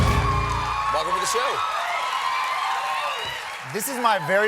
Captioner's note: applause